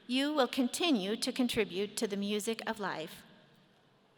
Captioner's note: none